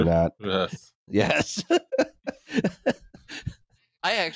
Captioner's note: laughs